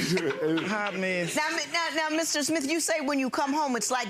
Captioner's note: Lynn laughing